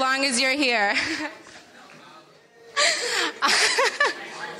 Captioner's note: laughing